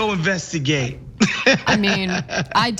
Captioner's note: laugh